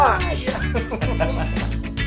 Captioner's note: laugh